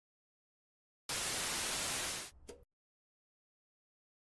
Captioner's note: static